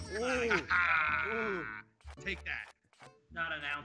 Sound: laugh

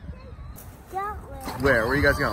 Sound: wind blows

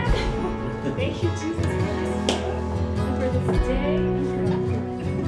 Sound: indistinct conversation

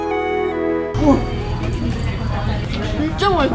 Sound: impressed

